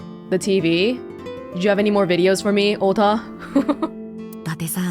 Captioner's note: chuckles